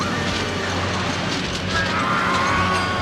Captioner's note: berteriak